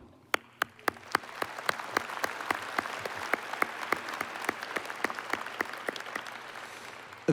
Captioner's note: applause